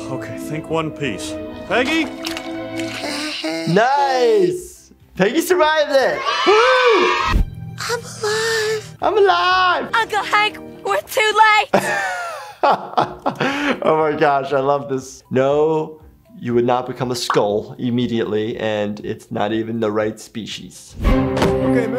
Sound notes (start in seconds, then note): 6.0 children cheering; 11.7 laughs